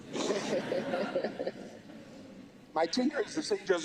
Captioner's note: laughter